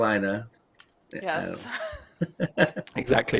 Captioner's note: laughter